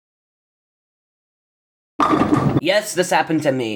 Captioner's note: bowling pin knock over sound effect